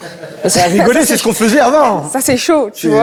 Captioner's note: laughs